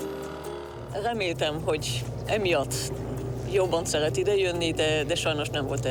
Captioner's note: speaking foreign language